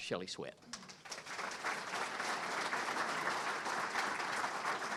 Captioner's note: audience Clapping